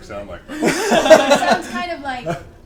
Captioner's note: all laugh